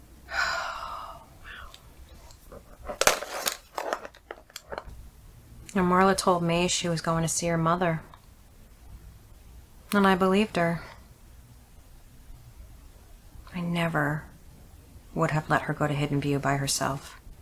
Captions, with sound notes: - (sighs) Wow. (glasses clanking) - You know, Marla told me she was going to see her mother, and I believed her. I never would have let her go to Hidden View by herself.